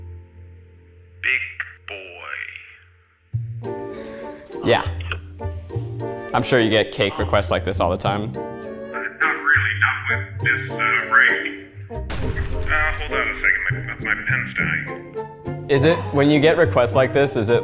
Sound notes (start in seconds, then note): 12.0 explosion blasts